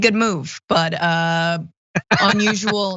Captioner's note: laugh